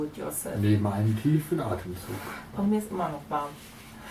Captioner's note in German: Aus dem Off